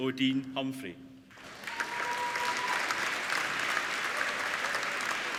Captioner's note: applauding